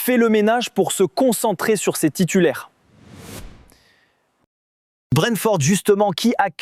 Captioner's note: 2-second sound effect